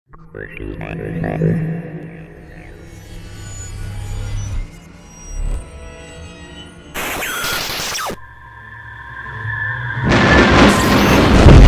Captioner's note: sound Effects